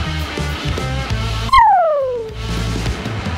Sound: whistle

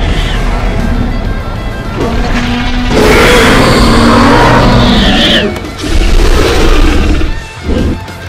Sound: loud roars

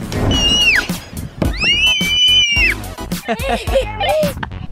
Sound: kids scream with excitement; laughs

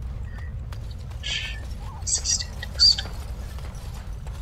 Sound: muttering

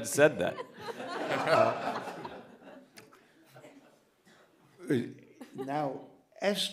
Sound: laughter

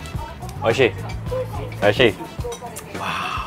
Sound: speaks in foreign language

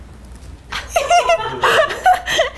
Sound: all laughing

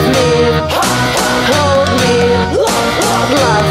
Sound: hah hah

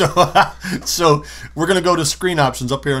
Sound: laughter

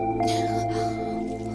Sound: sniffs

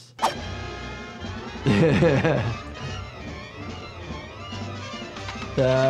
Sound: dramatic music; doctor chuckling

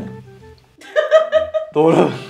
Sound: laughter

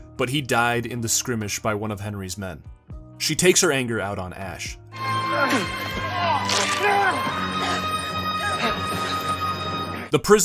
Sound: sounds of smacko and spits

